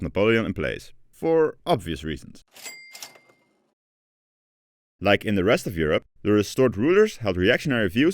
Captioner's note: kaching